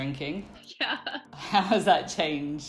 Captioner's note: laughs